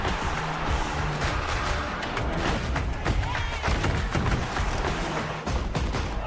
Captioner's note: crowd cheering; cheering from a room